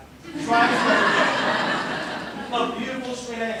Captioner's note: laughter